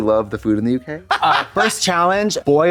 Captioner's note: Trixie chortles